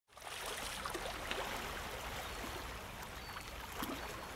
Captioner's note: water splashing